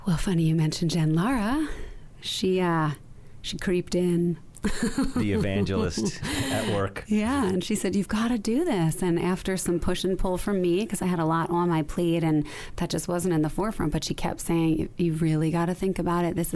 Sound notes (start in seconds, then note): 4.6 laughs